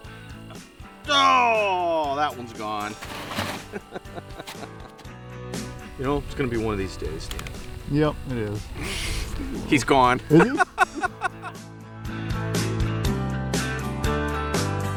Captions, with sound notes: Doh! That one's gone (laughing) You know it's gonna be one of these days. - [Voiceover] Yup, it is. - He's gone (laughs)